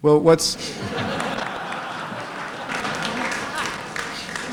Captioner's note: laughter